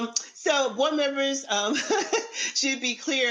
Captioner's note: laughs